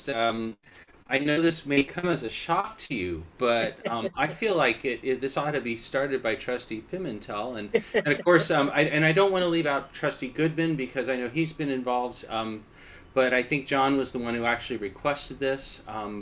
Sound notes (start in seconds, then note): 7.8 laughter